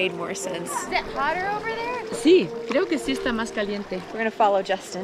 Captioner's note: in Spanish